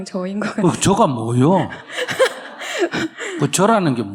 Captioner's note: questioner Laughter